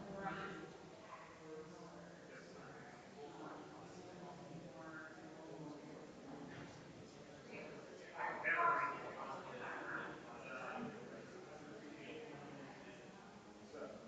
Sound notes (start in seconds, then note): 2.9 people chattering distantly continues